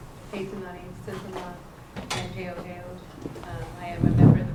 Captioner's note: non-english speech